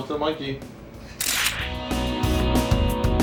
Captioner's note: camera shutter